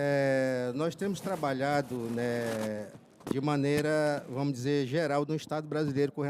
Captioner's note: speaking in foreign language